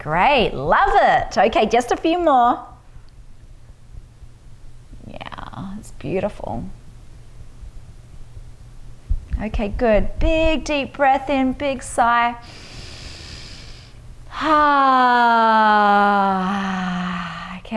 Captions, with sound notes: Great, love it! Okay, just a few more. Yeah, it's beautiful. Okay, good. Big, deep breath in, big sigh. (inhales deeply) (exhales deeply)